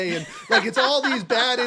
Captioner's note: laugh